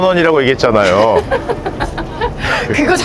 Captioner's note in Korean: 웃음